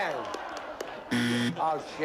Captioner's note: buzzer